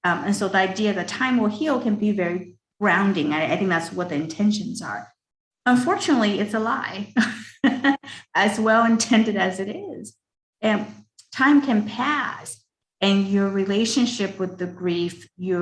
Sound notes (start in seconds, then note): 7.1 laughs